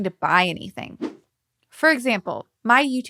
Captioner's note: logo whooshing